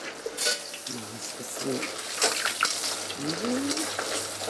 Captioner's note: she mutters to herself, clattering